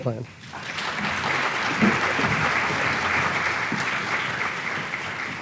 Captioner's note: audience applauding